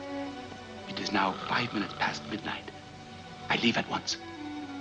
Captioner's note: Watson snores